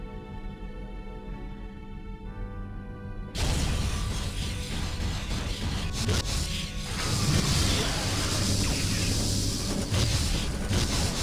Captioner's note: explosion